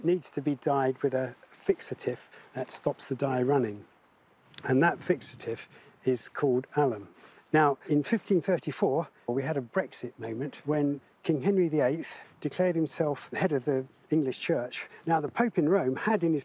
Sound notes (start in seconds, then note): none